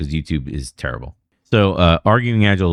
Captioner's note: uh